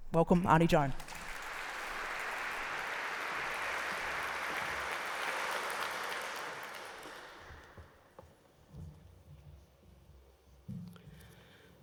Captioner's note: applause